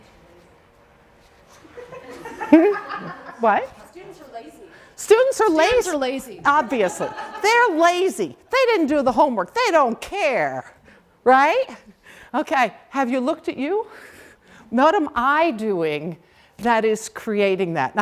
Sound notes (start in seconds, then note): 1.6 laughter